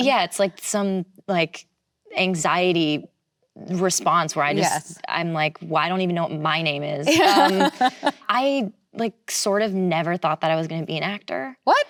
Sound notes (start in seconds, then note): 7.1 laughs